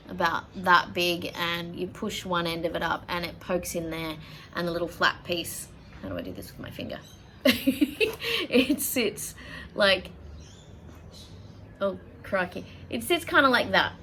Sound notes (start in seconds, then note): 7.4 giggles at inability to use hands